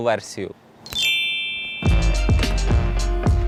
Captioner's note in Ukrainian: клац + магічний звук